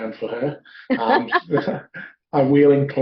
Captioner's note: both laughs